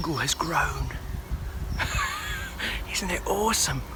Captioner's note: laughs